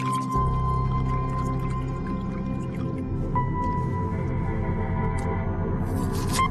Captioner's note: liquid bubbling